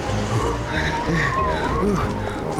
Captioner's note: panting